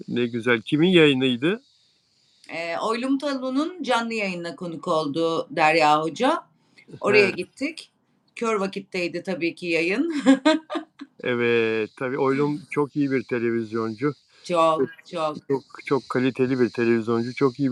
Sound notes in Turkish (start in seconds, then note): 10.1 kahkaha